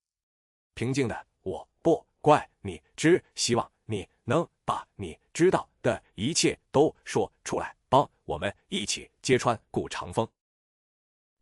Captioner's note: calmly